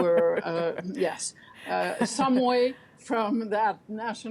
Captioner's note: laughter